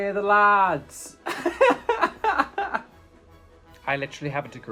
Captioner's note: laughing